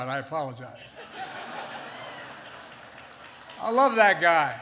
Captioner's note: laughter